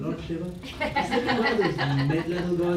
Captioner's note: laughter